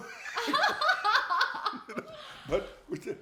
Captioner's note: both laughing